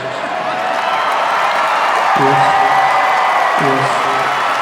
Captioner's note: cheers and applause